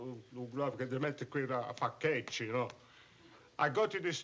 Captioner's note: non-english speech